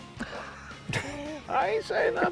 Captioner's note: laughing